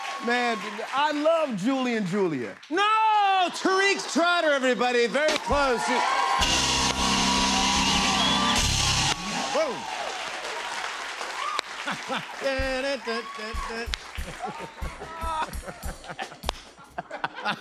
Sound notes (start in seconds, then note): 6.2 cheers and applause; 10.6 applause; 17.4 laughter